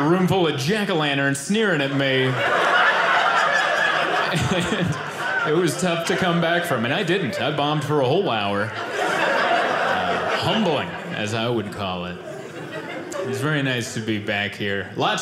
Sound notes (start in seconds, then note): 3.1 audience laughing